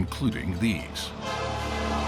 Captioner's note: horn blaring